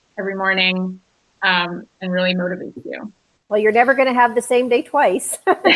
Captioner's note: laughs